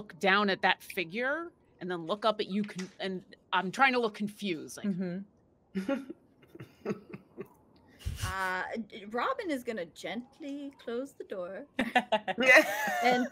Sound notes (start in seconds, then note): 6.5 chuckles; 11.8 laughing